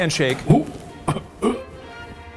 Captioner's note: upbeat music; vocalize